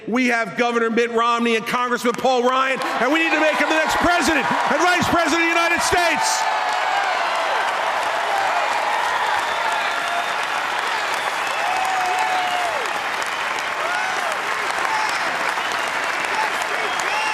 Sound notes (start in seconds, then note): 11.9 applause